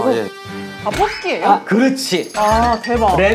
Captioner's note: bump